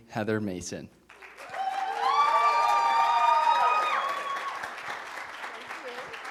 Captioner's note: cheering